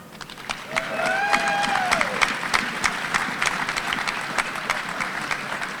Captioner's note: audience applauding and cheering